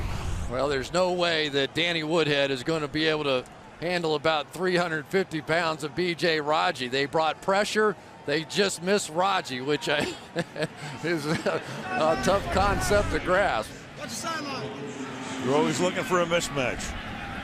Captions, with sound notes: Well, there's no way that Danny Woodhead is going to be able to handle about 350 pounds of BJ Raji. They brought pressure. They just missed Raji, which I-- [chuckles] is a tough concept to grasp. [onfield chatter] You're always looking for a mismatch.